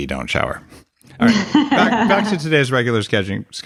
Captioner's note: laughing